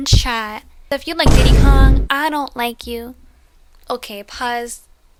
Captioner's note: boom